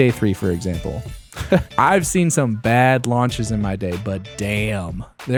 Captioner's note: laugh